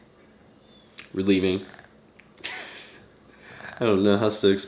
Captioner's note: chuckles